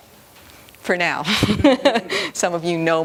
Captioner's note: laughter